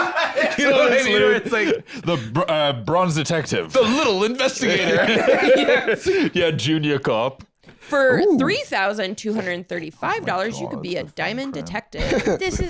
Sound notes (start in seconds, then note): 0.0 laughing; 4.7 both laughing